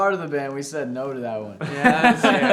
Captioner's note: band members laughing